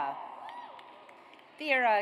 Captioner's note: audience cheers